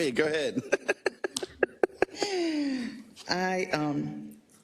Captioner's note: laugh